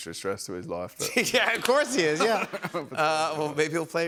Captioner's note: laughter